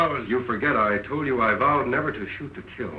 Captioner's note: none